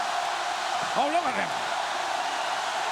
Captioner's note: crowd chants "Hooo"